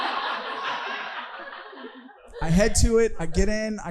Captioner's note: audience laughing